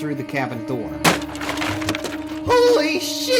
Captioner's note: wood shattering